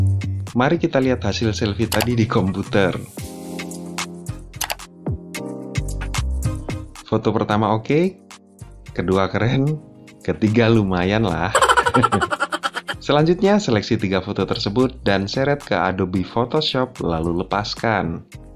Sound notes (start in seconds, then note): 11.5 ha ha